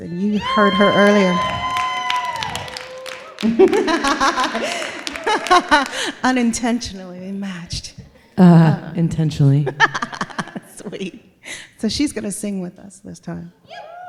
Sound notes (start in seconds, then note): 2.6 cheers; 3.4 laughter